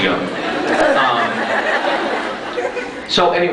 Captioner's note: crowd laughs